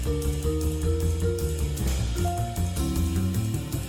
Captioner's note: none